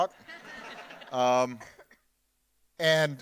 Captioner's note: audience laughing